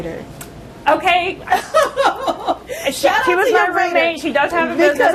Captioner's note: laughter